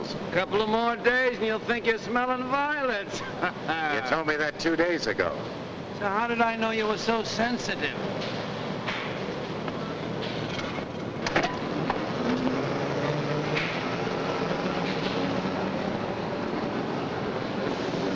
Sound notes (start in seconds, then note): 3.1 laughs; 9.7 machinery rumbling nearby